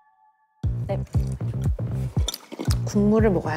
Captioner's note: slurping sweet cereal milk